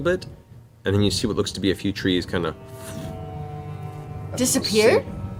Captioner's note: fwoosh